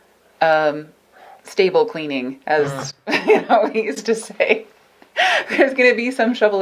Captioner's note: laughs